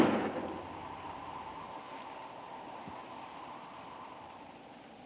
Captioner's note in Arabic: أصوات البنادق; عواء الريح